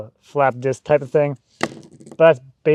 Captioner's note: disc clunks